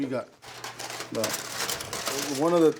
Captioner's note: aluminum crinkles